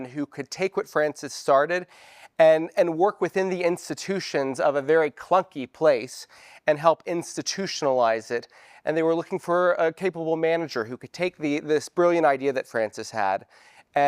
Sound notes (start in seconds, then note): none